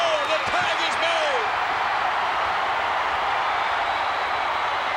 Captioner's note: crowd cheering